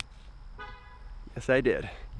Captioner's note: horn honking